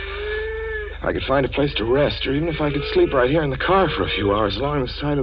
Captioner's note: a deep breath